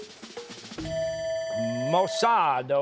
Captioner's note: bell ringing